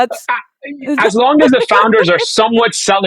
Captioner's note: laughing